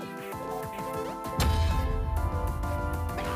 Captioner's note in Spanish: none